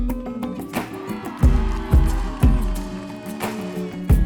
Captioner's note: crowd cheering